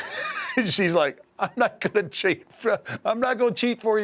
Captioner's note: laugh